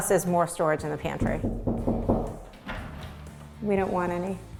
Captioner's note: knocking